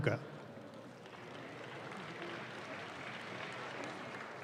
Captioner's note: audience claps